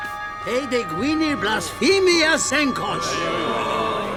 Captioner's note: men shouting in Greek